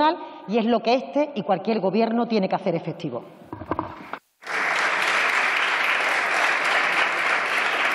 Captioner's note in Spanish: Aplausos